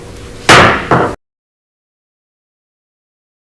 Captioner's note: gavel bangs